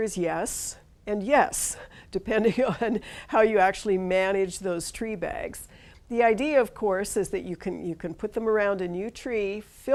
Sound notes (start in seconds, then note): 2.4 chuckles